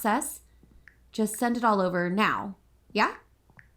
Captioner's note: phone typing, footsteps